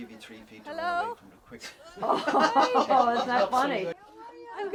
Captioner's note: laughing